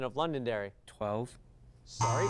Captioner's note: buzz